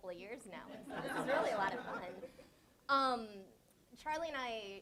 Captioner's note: audience laughs